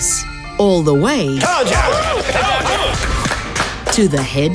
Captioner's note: everyone clapping